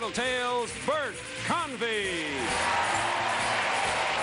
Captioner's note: cheers and applause